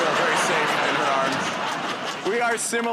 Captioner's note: laughter